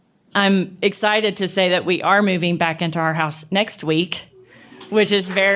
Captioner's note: applause